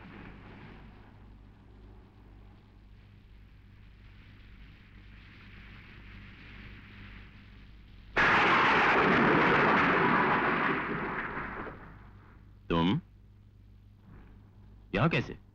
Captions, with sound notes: (Thunder crashing) You? What are you doing here?